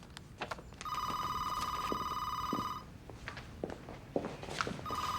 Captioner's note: telephone ringing